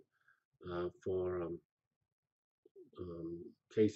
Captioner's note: pause